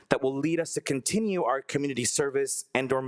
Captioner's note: none